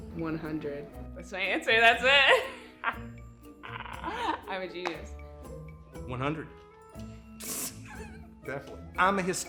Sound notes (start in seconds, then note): 3.6 laughing; 7.8 laughing